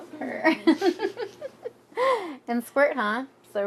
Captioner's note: chuckles